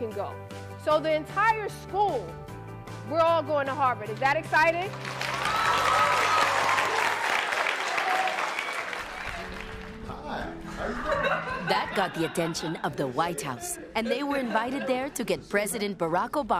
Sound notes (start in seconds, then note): 7.9 cheers and applause; 10.7 laughter